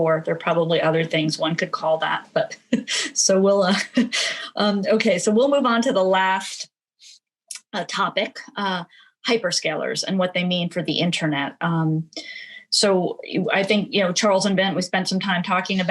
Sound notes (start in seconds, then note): 2.8 laughs